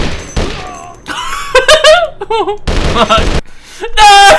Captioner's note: laughter